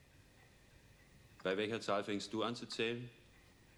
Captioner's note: speaking german